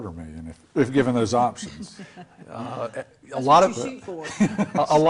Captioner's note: laughter